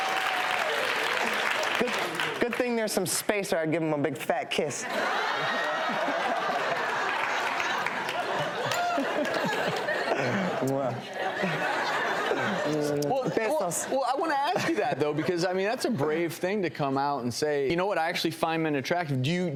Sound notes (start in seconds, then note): 5.2 laughter; 10.6 makes kissing noises